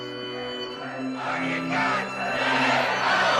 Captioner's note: crowd chanting